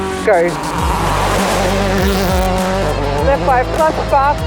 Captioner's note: car engine revving